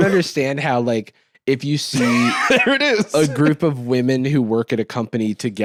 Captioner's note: laughs